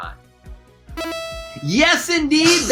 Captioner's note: electronic tones